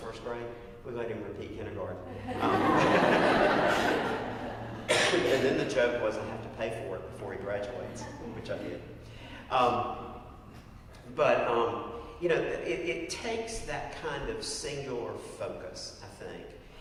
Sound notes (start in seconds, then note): 5.4 laugh; 6.9 cough